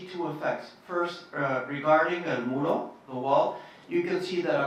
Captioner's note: speaking Spanish